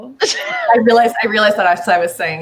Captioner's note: laughs